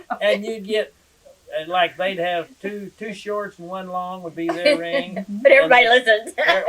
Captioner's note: laughter